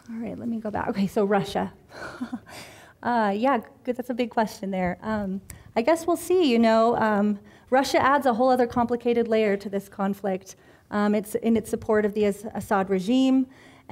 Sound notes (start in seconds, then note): 2.1 chuckling